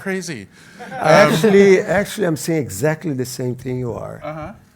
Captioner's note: laugh